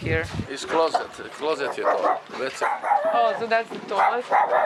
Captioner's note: speaks in foreign language